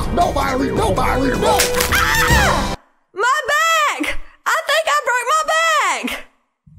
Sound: loud Bone Break Sound

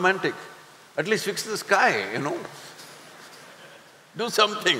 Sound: few laugh

